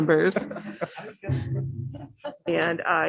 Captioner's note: laughter